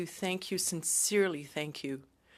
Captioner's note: speaking French